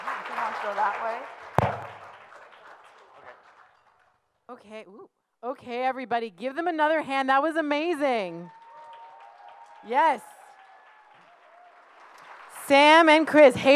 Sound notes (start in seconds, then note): 8.4 audience cheers